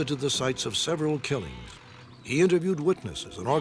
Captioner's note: sheep baaing